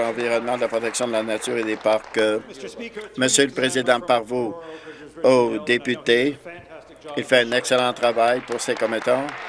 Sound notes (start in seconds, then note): 0.0 applause